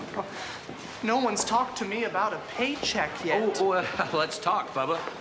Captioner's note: chuckles